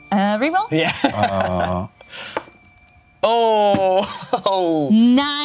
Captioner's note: laughs